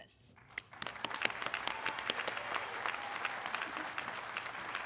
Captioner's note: audience clapping